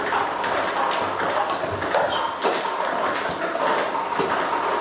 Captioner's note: ball ping pong hitting continues